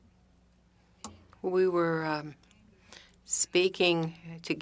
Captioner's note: speaking French